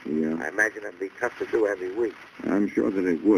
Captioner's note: on phone